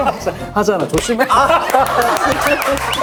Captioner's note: smack